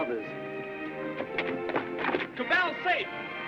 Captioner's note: footsteps scrambling